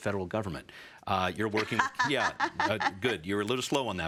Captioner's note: laughs